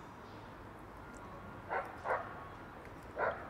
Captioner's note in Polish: szczekanie psa